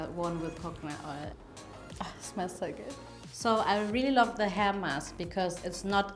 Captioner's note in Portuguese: suspiro